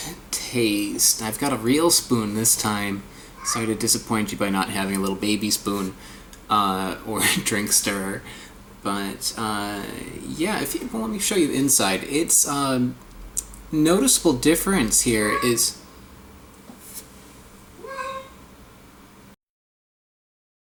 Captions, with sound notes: taste. I've got a real spoon this time, sorry to disappoint you by not having a little baby spoon or drink stirrer but err, yeah. Let me show you inside. It's noticeable difference here is ... (Cat meowing - it knows it's in trouble now)